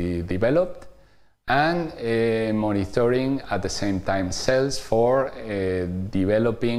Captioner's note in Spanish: vacilación